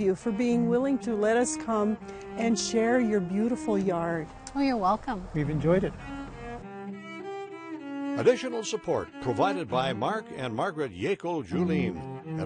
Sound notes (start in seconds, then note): 6.4 slow string music; 8.3 voiceover